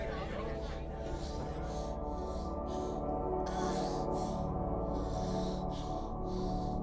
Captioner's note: Abby moaning